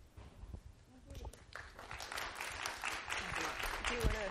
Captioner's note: applause